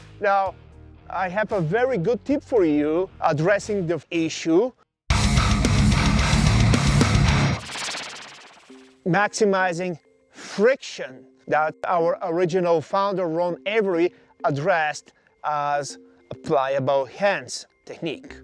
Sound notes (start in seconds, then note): 5.1 heavy rock music; 7.8 logo whooshes